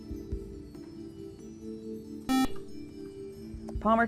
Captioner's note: buzzer